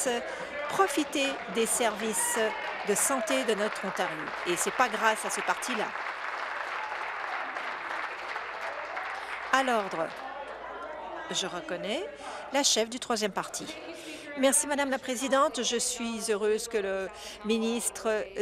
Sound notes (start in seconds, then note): 6.6 applause